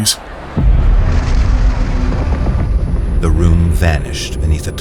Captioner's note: the party sounds slow and disappear beneath the turbulent rumbling of the void